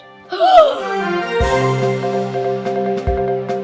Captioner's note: loud gasps